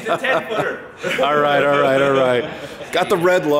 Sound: laughing

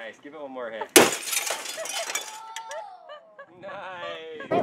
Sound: glass shatters

